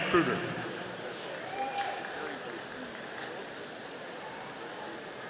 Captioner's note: audience cheering